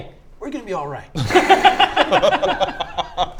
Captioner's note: laughter